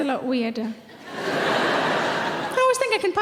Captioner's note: audience laughing